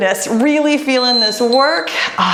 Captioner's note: timer beeps